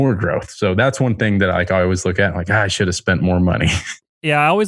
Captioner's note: laughs